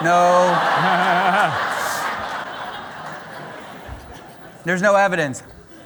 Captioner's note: laughter